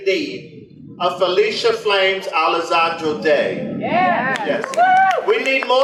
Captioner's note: audience applause